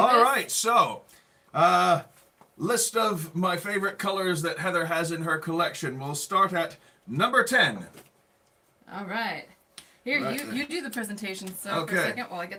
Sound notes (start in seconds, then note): none